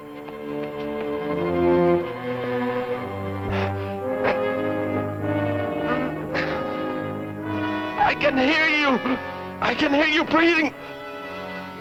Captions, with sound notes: [ WORRYING MUSIC ] [ MOANS ] I can hear you! I can hear you breathing!